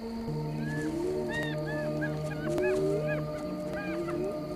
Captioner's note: hyena calling